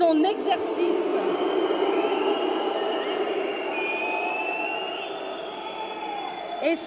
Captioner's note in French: Sifflements